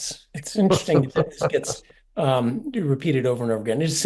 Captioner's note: laugh